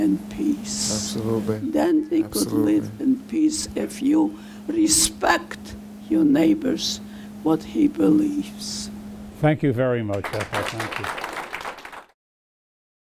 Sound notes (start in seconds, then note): 10.0 applause